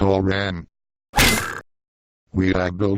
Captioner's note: smacc; smacc again